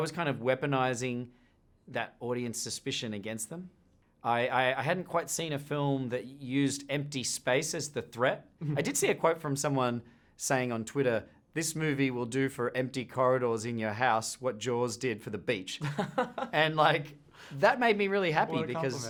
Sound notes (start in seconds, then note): 15.8 chuckles